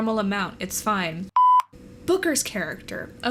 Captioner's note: beep